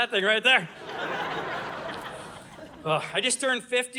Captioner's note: audience laughing